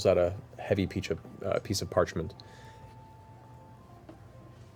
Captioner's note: none